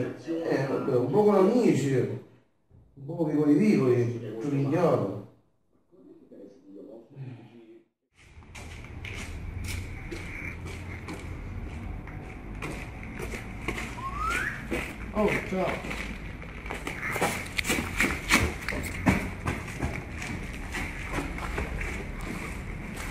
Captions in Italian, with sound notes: ne, un po con amici e un po VICOLI VICOLI... 4 minchiate... [fischio di marco]oh ciao...